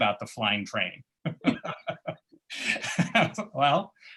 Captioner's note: laughter